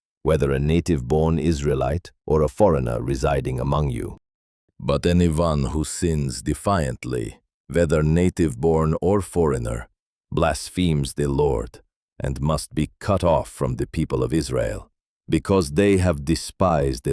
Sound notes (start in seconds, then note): 4.8 sternly